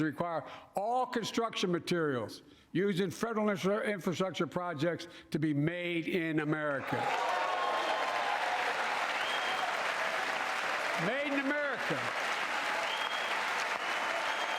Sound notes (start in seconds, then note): 8.3 cheering and applause